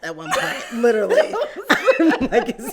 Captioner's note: laugh